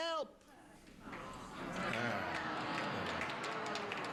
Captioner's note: audience groans